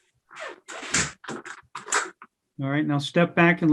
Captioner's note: door closing